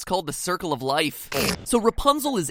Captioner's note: blow's raspberry